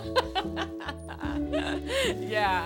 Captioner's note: laughter